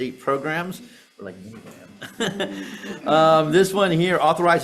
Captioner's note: laughing